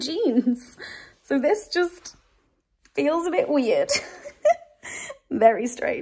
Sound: giggles

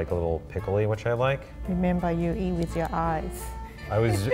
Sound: laughs

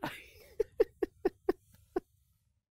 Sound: laughing

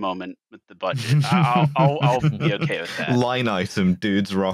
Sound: laughter

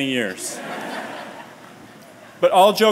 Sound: laughter

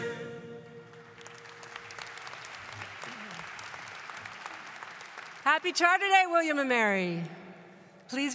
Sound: applause

